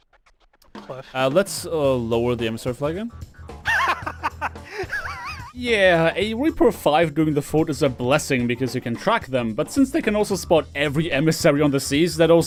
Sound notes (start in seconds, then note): 3.6 laughter